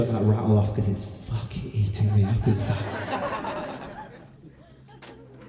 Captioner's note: laughter